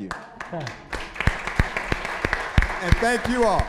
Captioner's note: applause